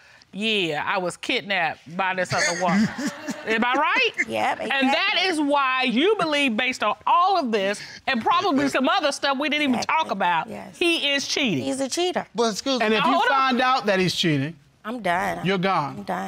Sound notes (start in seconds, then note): 2.3 chuckles